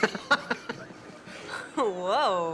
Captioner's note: Leek laughing